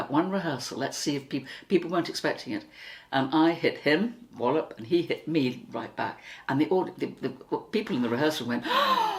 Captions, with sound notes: One rehearsal, let's see if people react. People weren't expecting it. And I hit him - Wallop! And he hit me, right back. And the people in the rehearsal went.... [Gasped!]